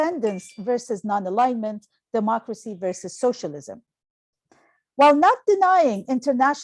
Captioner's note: phone chime